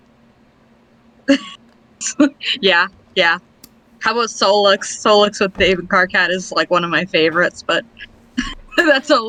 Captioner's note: laughs